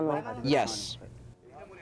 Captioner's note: through translator